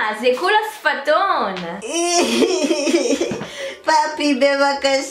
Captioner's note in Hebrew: בכי